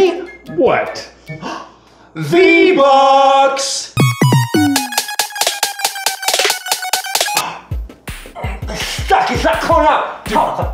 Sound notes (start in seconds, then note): 1.4 gasp; 4.0 upbeat music